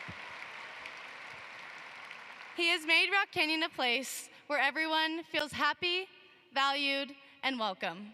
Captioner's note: applause